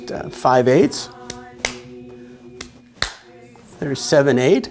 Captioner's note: rhythmic clapping